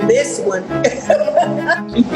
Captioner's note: laughing